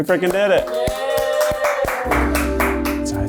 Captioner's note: people claps and cheers loudly; gentle music